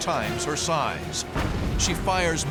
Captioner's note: explosion